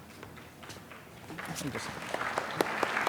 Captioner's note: applause